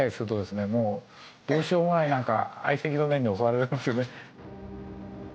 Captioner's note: chuckles